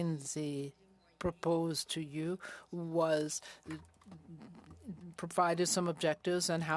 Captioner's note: speaking French